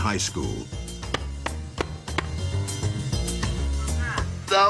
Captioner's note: shoe wacking